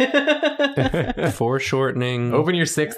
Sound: laughs

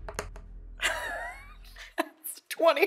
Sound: dice thudding; laugh

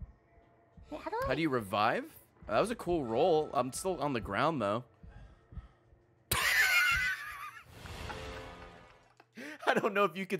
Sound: laughs

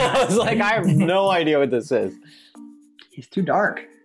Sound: laughs

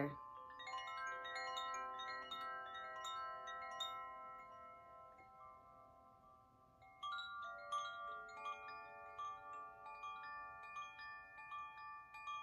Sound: chimes

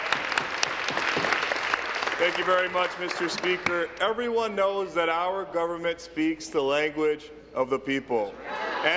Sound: applause

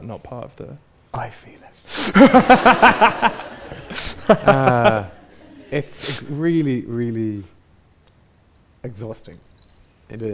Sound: audience laughs

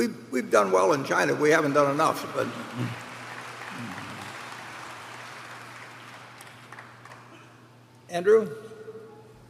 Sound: applause

